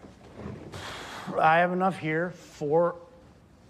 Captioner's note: exhales forcefully